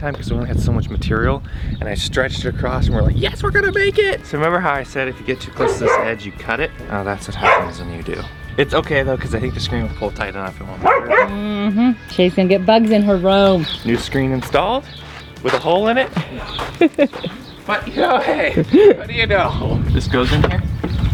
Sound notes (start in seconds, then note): 16.0 giggles